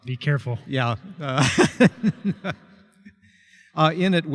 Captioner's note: laughter